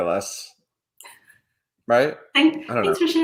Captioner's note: chuckles